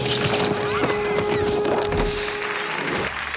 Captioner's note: people screaming; graphics whooshing; hands clapping